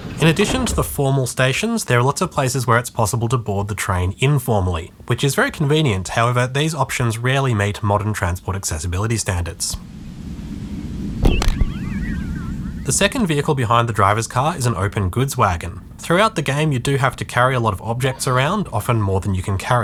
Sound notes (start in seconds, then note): 11.2 splat